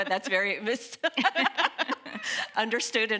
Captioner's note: laughing